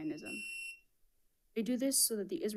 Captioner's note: buzzer buzzing